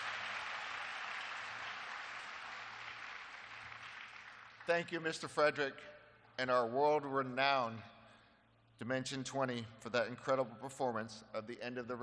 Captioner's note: applause